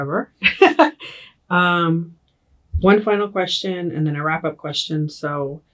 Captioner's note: laughs